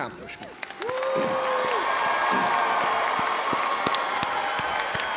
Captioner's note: crowd cheering